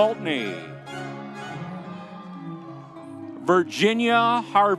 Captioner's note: audience cheering